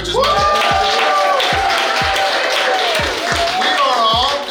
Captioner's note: cheering & Clapping